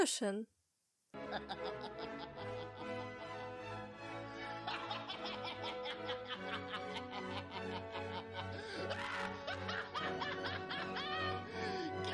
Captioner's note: maniac laugh